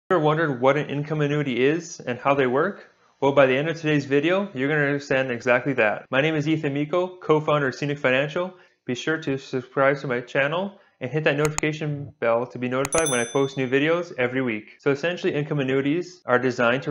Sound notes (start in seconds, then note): 12.8 bell ring